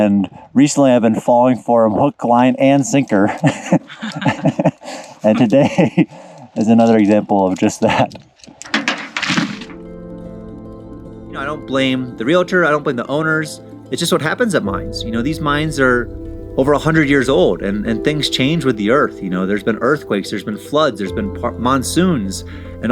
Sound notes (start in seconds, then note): 3.2 laughter; 9.8 wondrous music